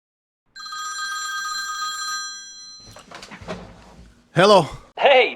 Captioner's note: phone ringing